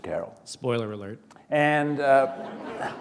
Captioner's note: laughter